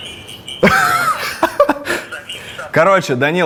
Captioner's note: both laugh